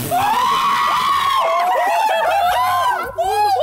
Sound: screaming

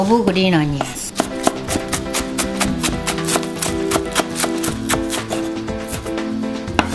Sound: chopping

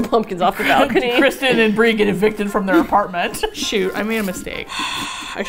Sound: laughs

